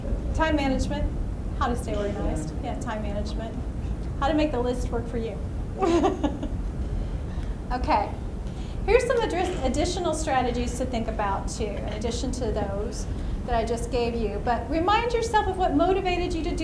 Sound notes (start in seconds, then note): 5.8 laughs